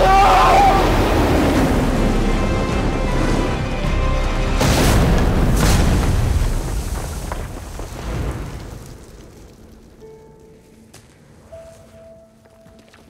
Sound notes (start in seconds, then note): 0.1 Kal yells; 4.5 explosions boom; 9.6 gentle music